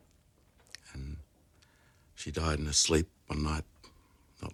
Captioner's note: none